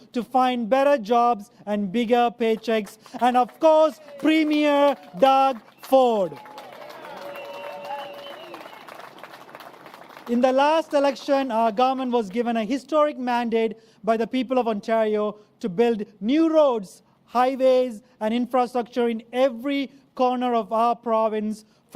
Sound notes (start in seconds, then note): 4.0 applause; 9.1 applause